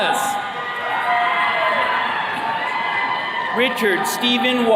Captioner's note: attendees cheering